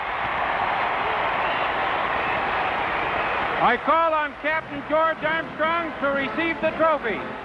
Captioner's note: crowd cheers